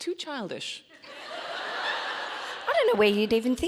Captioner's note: audience laughing